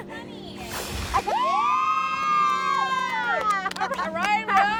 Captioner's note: cheering